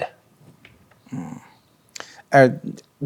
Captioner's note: someone groans